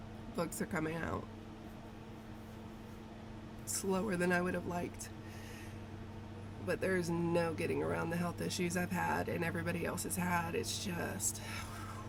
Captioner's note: whew